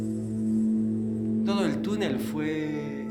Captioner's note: speaking Spanish